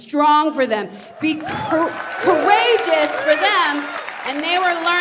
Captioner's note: audience applauds